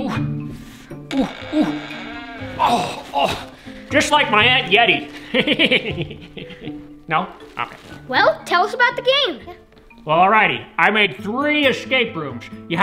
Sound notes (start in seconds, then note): 4.5 laughing